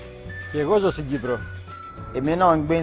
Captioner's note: Elliniká